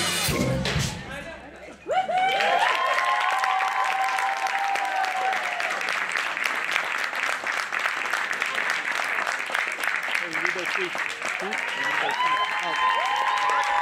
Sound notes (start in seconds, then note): 5.2 applause